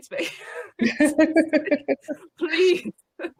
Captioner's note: laughs